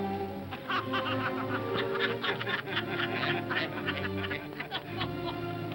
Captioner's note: all laugh